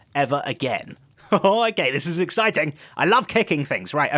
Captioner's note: chuckles